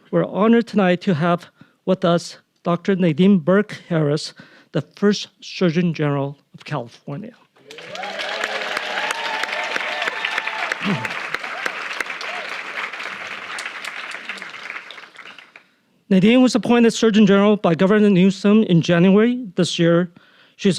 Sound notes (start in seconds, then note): 7.6 audience cheering; 7.6 audience applauding